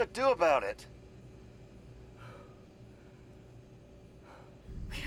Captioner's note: sighs Deeply